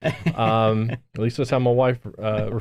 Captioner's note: host laughs